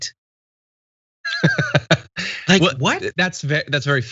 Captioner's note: laugh